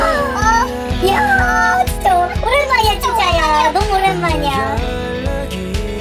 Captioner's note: rough breath